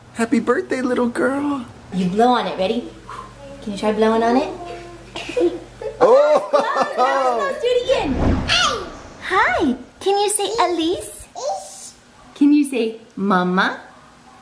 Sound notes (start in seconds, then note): 5.2 spits; 8.8 baby talk; 11.6 baby talk